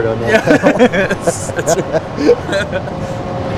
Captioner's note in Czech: Smích